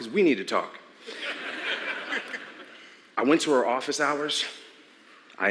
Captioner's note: laughter